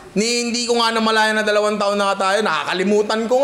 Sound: none

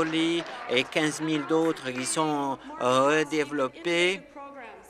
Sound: applause

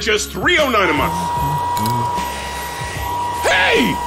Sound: hairdryer blowing

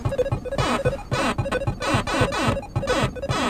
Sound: beeping

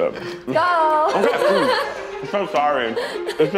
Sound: laughs

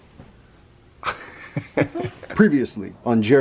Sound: laughs

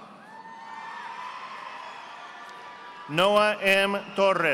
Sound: audience applauding

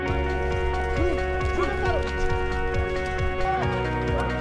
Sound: players yelling

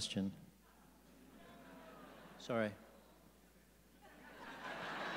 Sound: audience booing; audience laughing

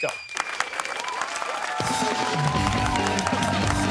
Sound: cheers and applause

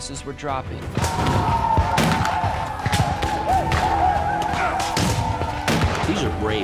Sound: gunshots

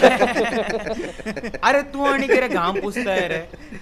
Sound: all laughing

